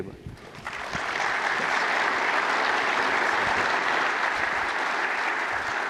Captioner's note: applause